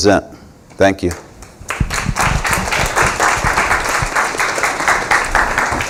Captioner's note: applause